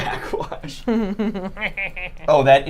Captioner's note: snickers